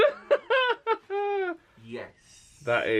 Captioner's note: laughs